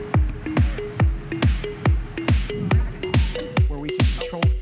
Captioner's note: claps